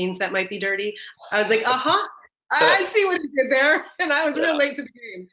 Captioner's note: laughs